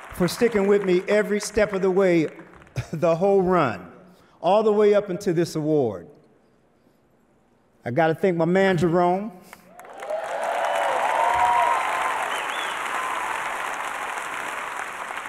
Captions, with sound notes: for stickin' with me every step of the way, the whole run. All the way up and to this award. I gotta thank my man, Jerome. [audience cheers and applause]